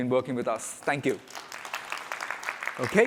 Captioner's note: applause